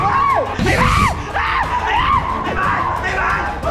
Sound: screams; pat

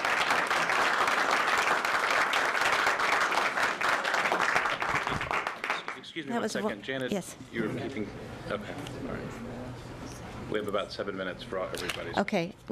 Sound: applause

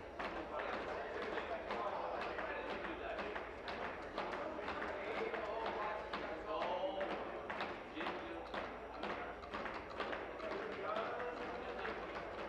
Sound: tapping of desks

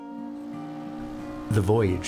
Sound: horn blows

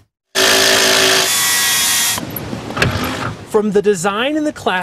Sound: drill whirring

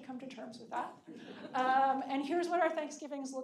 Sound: audience laughing

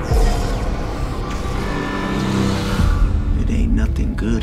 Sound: alarm blaring

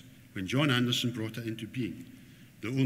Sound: none

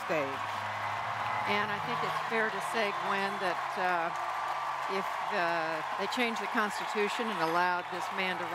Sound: cheers & applause

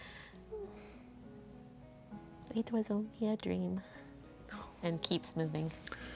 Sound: sighs

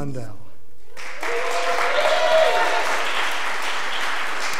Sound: audience applause

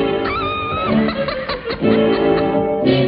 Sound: laughs

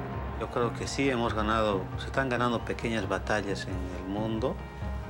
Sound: speaking foreign language

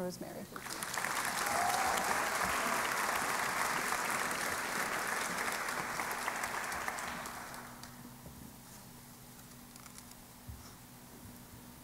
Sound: applause

